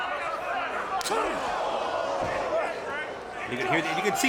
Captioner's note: crowd groans